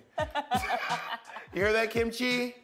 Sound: laughter

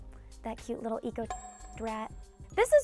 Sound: beep

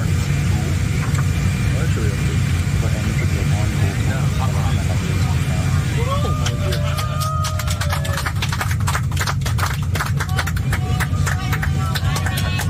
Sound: applause

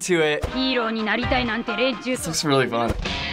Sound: speaking Japanese; electric guitar

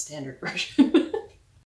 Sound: laugh

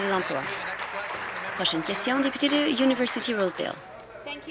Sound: applause

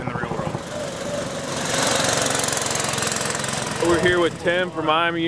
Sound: engine roars

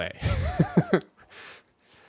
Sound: laughs

